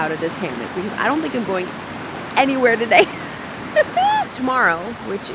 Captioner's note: laughs